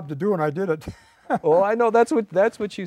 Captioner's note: laughing